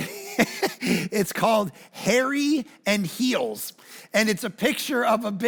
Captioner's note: chuckles